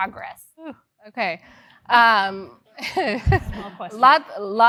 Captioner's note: laugh